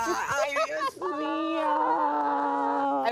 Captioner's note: speaks in foreign language